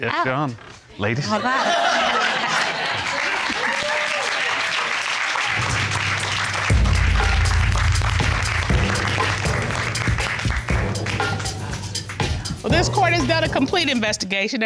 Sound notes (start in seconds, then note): 3.8 audience cheers